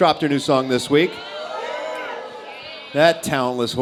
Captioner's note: cheers